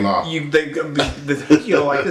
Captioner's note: laugh